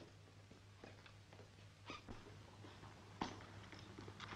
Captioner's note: floor pattering